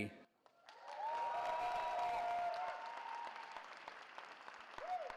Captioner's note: cheering